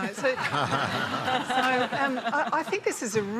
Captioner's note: laughter